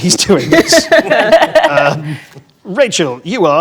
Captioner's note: group laughs